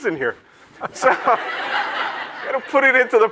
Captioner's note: audience laughs